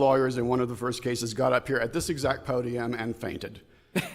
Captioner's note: laughter